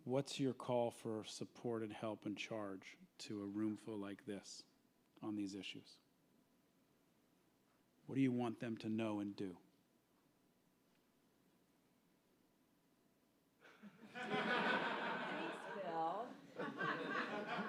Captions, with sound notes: What's your call for support and help and charge to a room full like this on these issues? What do you want them to know and do? [laughter] Bill?